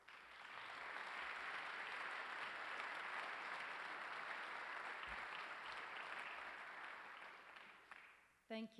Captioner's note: applause